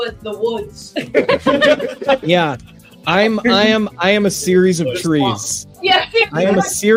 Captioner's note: laughing